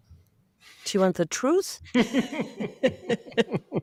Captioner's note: laughing